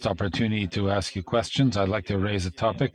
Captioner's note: speaking French